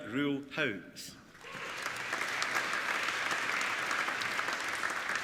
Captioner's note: applauding